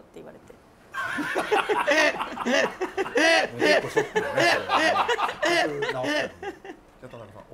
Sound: laughter

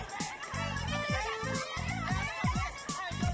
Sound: students clamoring

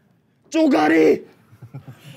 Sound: gently whispering

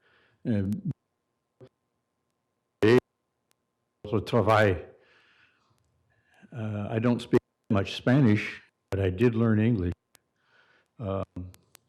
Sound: audio cutting in and out

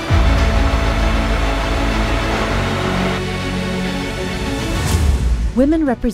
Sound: bright uplifting music; machines whirring; bright uplifting music

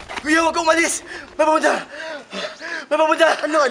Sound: pants

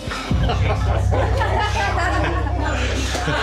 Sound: laughter

